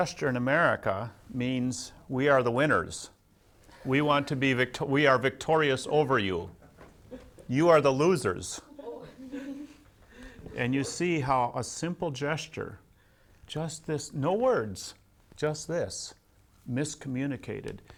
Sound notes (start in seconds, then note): 2.7 laughs; 8.6 laughs